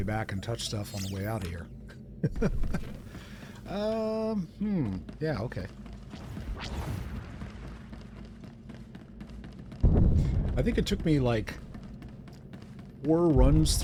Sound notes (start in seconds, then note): 2.7 laughs